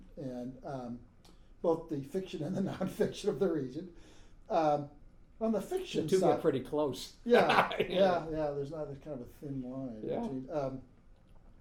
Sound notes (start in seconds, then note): 7.3 laughing